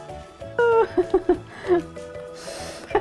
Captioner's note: laughing